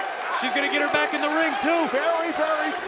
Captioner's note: crowd cheering